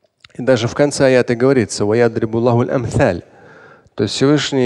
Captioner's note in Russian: говорит на арабском